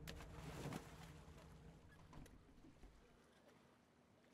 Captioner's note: water splashing